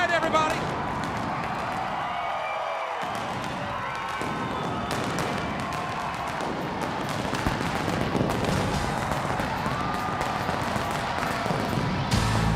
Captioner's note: crowd cheering